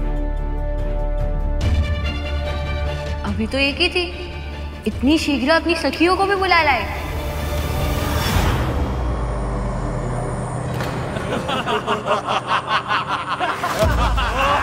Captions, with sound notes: There was just one until now. You invited your friends so soon. [laughs]